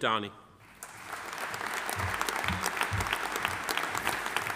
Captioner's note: audience applauding